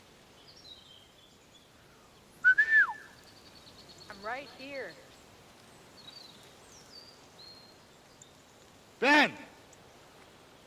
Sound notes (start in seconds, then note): 2.4 whistling